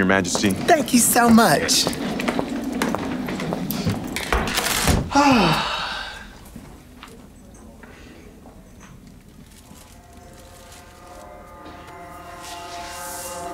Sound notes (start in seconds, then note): 5.1 mother sighs